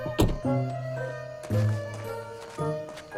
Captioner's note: car door thuds; footsteps thumping